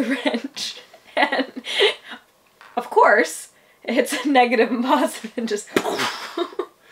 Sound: laughs

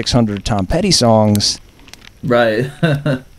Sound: laughs

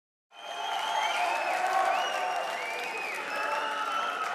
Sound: audience cheering

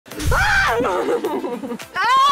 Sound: screams

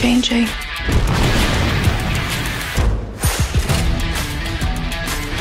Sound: explosive blowing

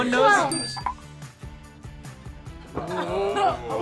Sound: bell dings

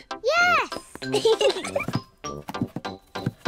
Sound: both giggle

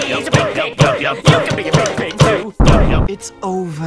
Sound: explosion

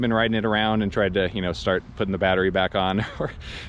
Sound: chuckles

